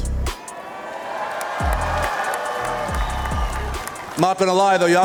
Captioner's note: crowd cheering